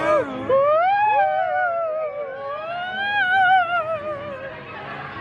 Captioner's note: shout